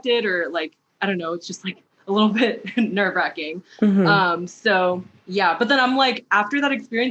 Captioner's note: mhmm